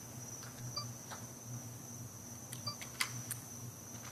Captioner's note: beeping